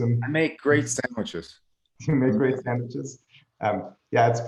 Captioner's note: laughing